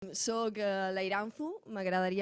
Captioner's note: in Catalan